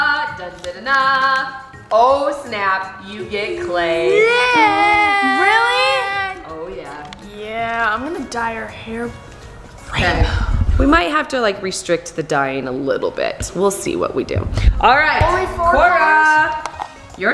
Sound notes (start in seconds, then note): 4.5 shouting